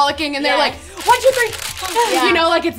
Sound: camera shutters

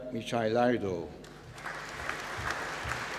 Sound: applause

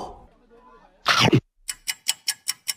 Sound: munching

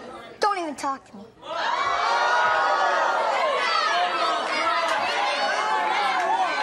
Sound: audience shouting and yelling

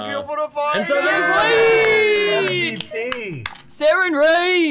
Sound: cheering

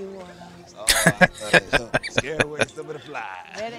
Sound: laughing

